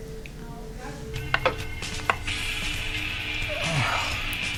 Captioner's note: upbeat music; object rustling; man groans